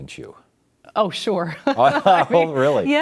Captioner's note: giggles; laughs